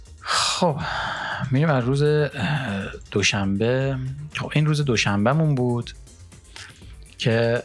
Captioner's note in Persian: صدای آه